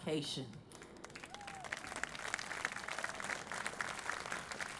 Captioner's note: audience applauding